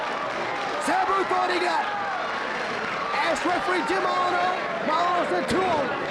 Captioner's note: presenter speaking faintly off mic